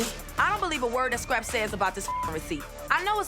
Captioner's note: beep